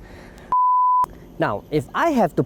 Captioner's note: beep